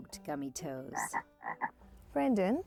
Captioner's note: croaking